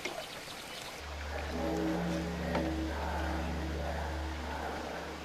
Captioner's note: bell tolling; mysterious whisper chanting